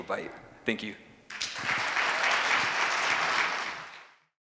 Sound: applause

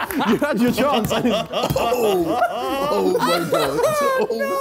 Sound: all laughing

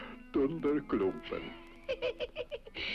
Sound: laughs

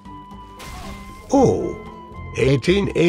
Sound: That one sound when you hit a Villager in NeinKraft

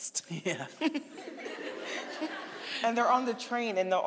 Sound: chuckling; audience laughing

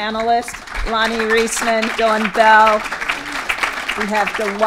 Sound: applause

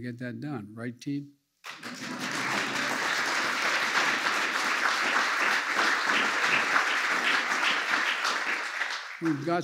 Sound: applause

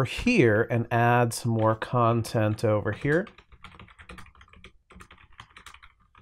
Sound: typing sounds

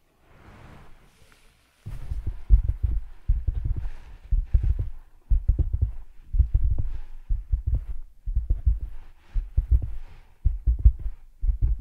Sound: tapping from top

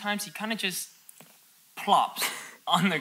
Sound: coughs

